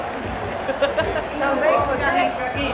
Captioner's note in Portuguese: risada